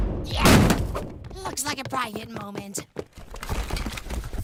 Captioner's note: whispering